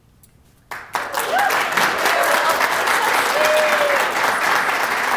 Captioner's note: applause